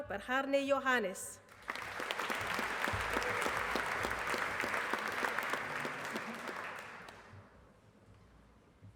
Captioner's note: applause